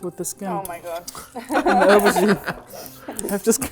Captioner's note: everyone laughs